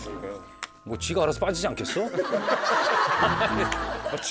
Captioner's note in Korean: 웃음소리